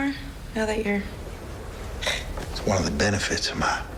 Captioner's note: hisses